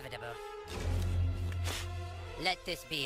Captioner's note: spitting